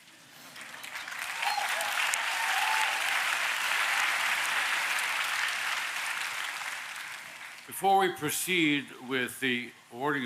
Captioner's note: applause